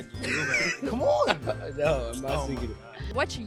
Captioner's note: all laugh